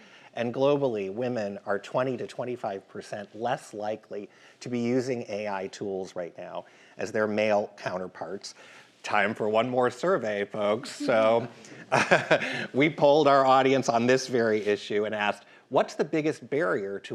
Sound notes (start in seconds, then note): 10.9 chuckles